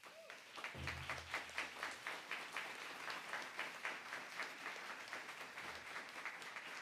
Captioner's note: applause